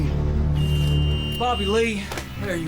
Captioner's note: door buzzer